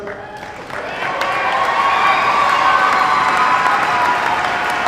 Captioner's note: crowd cheers